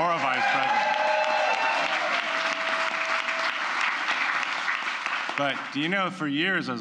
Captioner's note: applause